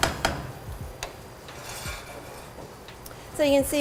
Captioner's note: spoon hitting the pot